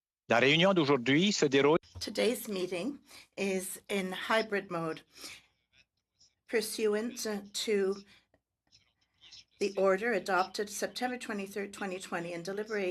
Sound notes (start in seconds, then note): 5.4 speaking French